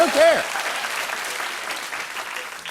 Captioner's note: applause